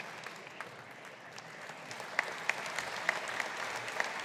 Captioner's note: audience applauding